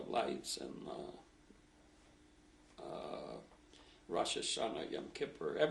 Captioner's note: pauses for 3 seconds